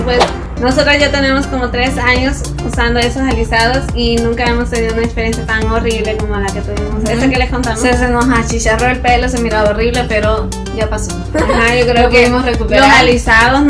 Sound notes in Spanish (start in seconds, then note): 11.3 risa